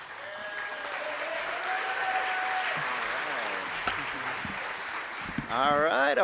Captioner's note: cheers and applause